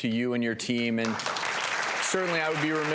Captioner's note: audience applause